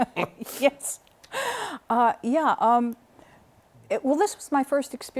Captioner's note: laughter